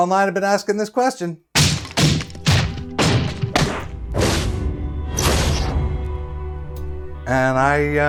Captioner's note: loud hits and bangs